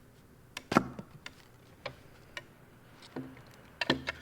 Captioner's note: wood knocking